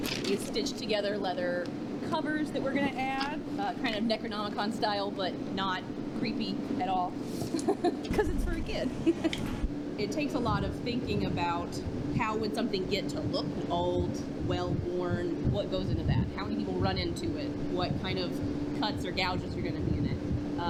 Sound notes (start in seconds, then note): 7.5 laughs